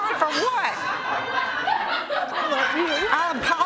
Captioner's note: laughter